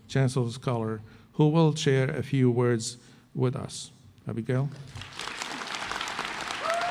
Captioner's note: applause